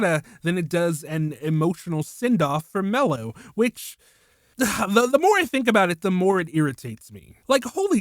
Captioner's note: ugh